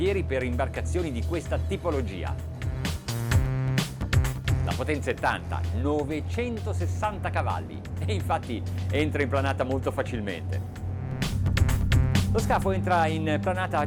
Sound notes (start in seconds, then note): 2.9 funky music; 4.9 man speaks in foreign language; 11.2 funky music; 12.6 man speaks in foreign language